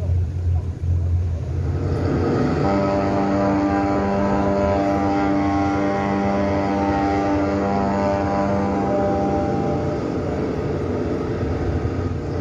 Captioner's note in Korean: 뱃고동 소리